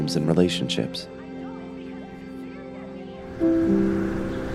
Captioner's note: woman speaking frustratedly